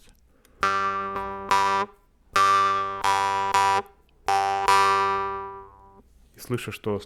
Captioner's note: plays more tones